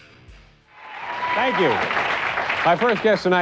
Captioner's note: cheers and applause